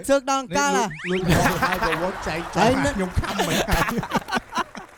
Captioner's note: laughs